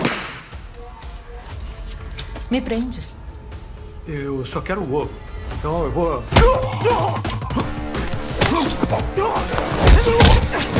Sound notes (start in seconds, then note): 6.4 choking; 9.0 all grunting